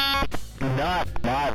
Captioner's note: glitching noise